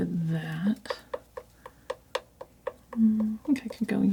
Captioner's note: scratching